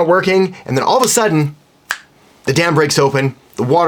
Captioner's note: snaps finger